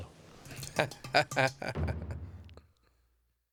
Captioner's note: laughs